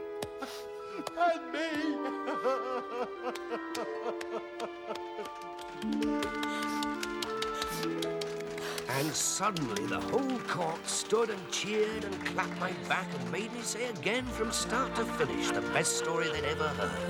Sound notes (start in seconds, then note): 0.3 sobbing; 3.6 crying